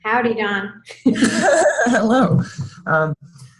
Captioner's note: laughing